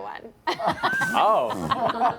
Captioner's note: laughter